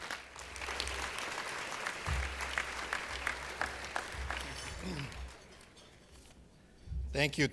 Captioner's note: applause